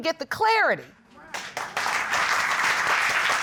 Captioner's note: audience applauding